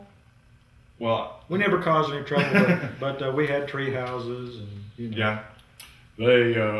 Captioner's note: laughter